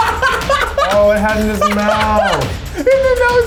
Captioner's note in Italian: risate